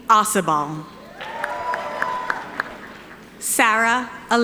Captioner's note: audience applauding